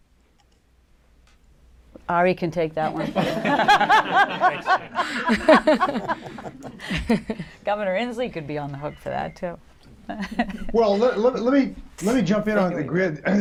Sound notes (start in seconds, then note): 2.9 laughter